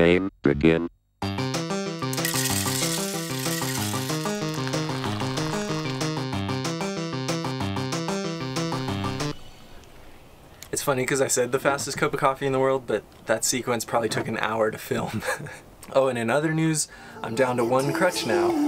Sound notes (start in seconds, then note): 0.2 electronic Voiceover; 2.1 beans clicking; 4.7 water sloshing; 15.0 laughing; 17.2 upbeat electronica music